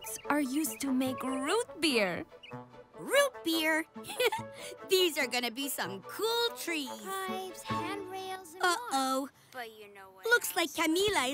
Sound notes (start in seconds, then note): 4.0 laughs